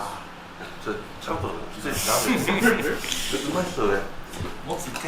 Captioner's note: laughs